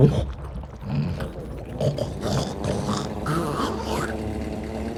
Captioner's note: snorting